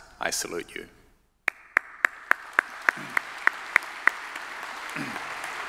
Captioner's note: everyone applauding